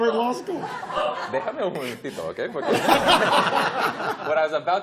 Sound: speaking spanish

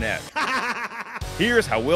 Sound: laughing

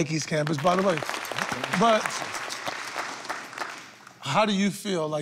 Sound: applause

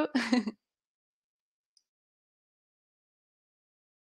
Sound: laughs

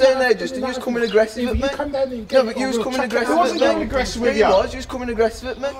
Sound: arguing

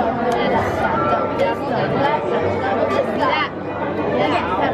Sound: children chattering

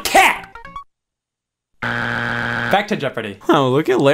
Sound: buzzer beeps

